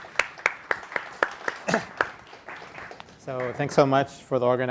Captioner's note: audience applauding